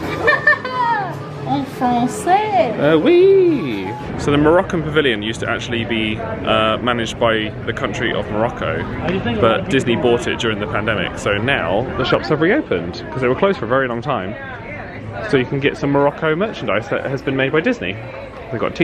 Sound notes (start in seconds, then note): 0.0 laughs; 2.0 speaking in foreign language; 3.0 exclaims